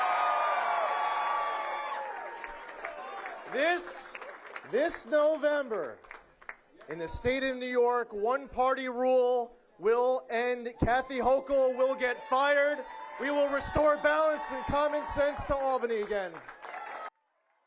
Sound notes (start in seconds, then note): 3.7 cheering